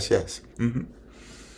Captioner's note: laughs